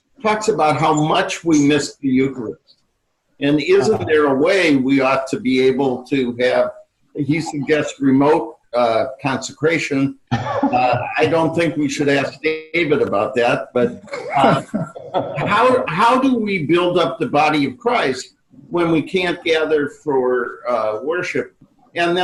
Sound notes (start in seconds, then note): 10.3 laughing